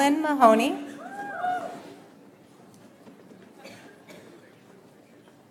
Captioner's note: audience applauds